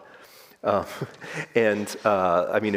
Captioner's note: all chuckling